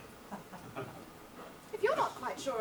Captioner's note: audience laughs